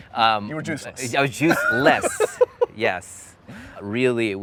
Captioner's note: laughs